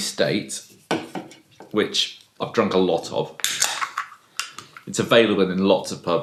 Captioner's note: cracking of top